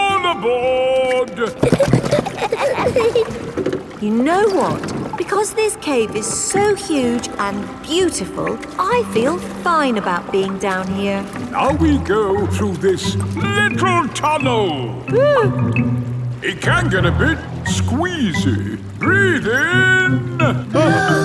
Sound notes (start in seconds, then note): 1.4 giggling; 15.1 whimpers